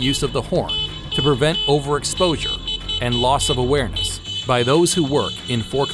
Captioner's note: repeated horn honking noises